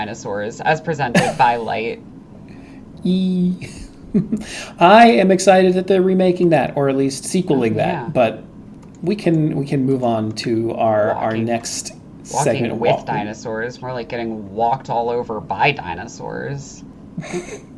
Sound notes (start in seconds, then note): 8.4 snort laugh